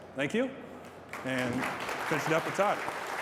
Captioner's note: applause